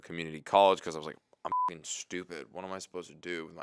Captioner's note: beep